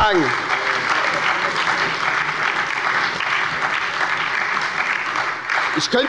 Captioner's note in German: Beifall bei der SPD und der LINKEN